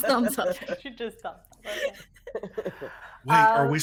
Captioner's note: people chuckling